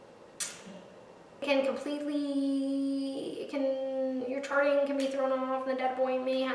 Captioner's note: robot voice